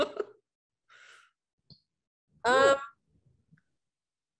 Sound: chuckling

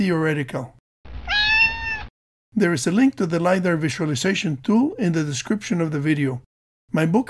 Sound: meow

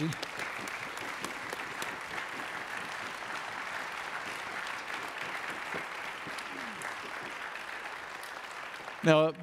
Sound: audience Applauds

